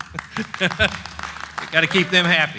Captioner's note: laughs